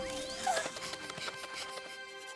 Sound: gasps; panting

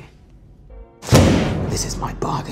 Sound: slams glass

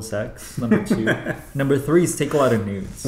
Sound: laughs

